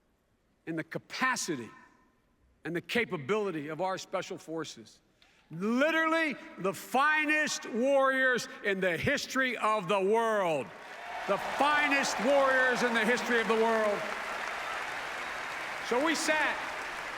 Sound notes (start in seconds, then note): 10.6 applause